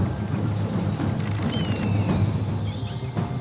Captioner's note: camera shutter clicks rapidly